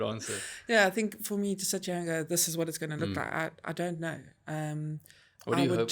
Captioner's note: laugh